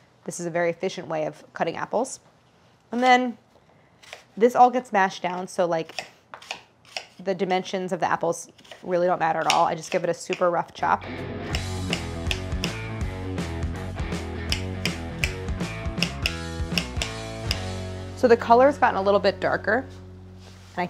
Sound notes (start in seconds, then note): 11.0 upbeat instrumental music; 15.9 apples chopping